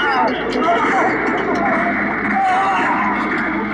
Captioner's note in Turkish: Silah sesleri, çığlıklar